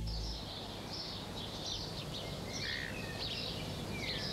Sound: birds singing

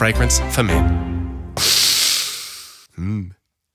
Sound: sniff

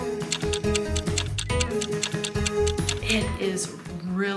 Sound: timer ticking

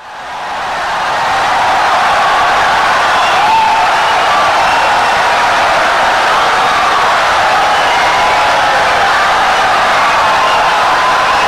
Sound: wild applause and cheering for 17 seconds

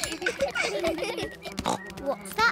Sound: all laugh; buzzing

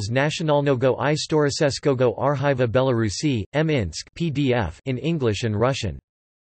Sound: in English and Russian

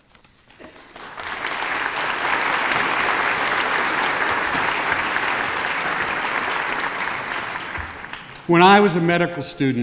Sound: applause

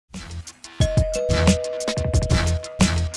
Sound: door bell

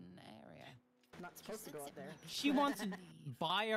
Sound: laughs

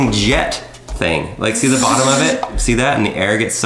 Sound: whirring noises

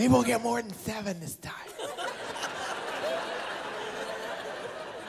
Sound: laughter

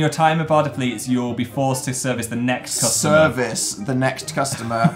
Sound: laughs

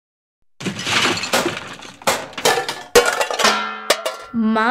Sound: bang! Crash!

